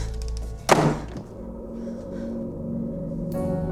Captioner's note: door shuts; suspenseful music